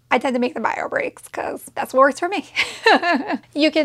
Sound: laughs

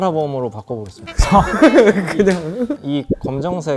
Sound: everyone erupts in laughter

